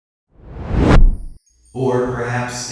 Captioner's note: air whooshing